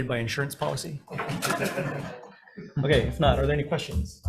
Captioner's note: all laughing